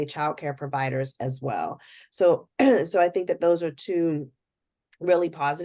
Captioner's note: cough